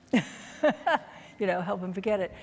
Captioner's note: laughing